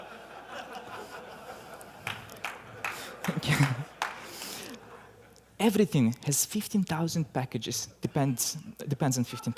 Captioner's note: laughter